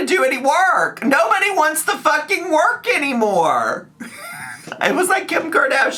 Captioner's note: laughs